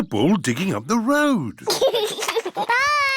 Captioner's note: giggles